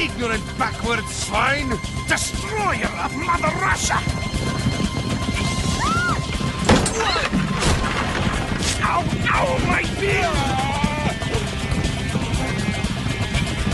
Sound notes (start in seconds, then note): 5.8 screams; 10.2 yelling